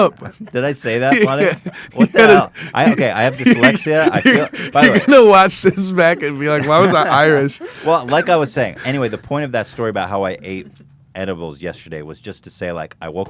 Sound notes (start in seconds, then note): 5.6 laughs